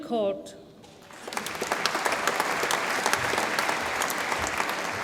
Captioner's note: audience applauds